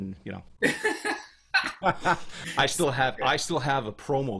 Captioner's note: laughs